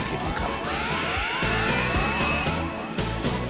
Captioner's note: ringwraith shriek